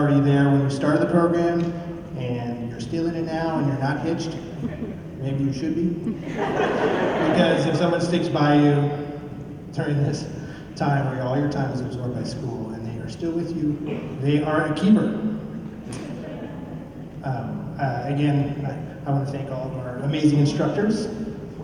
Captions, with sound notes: there when you started the program and you're still in it now and you're not hitched, maybe you should be. [LAUGHTER] Because if someone sticks by you during this time, where all your time is absorbed by school, and they're still with you, they are a keeper. Again, I want to thank all of our amazing instructors and support